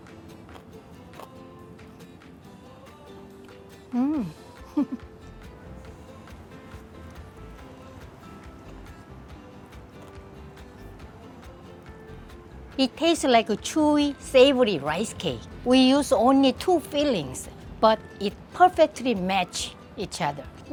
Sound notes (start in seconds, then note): 0.1 pleasant music; 4.0 laughs